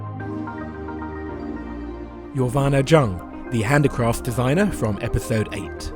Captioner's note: voiceover